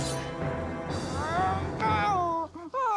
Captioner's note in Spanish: se queja